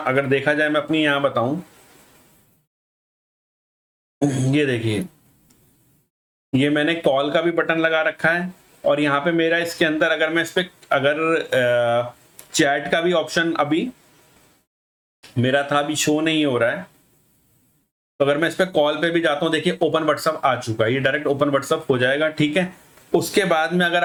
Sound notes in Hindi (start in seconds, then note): 4.2 गला साफ़ करने की आवाज़